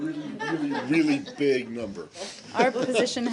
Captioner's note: laughter